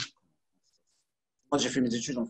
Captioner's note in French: coupure audio